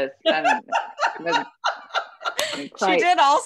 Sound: laughter

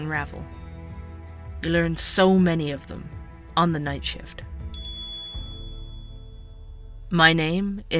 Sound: sound of Door Chime

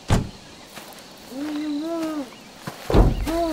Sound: car door bangs; man groaning and thumping

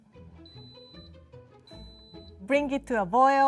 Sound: Instant Pot beeping

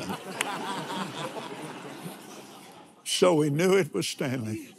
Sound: laughs

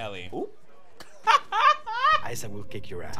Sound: laughing

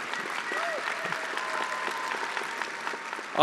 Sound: attendees cheering and applauding

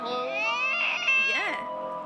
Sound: baby crying sounds

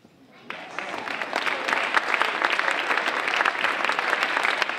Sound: audience applauding

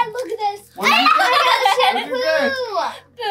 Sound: laughing

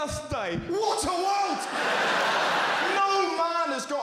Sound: crowd laughter

